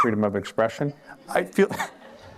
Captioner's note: laughter